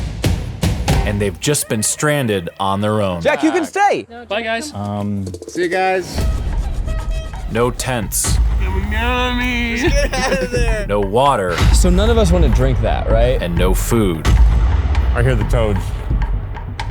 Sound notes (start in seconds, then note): 8.6 Keith mumbling; 8.6 laughs